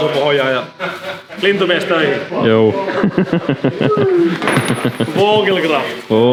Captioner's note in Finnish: naurua